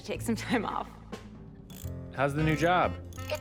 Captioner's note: machine whirs